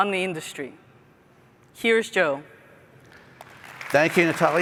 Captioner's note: applause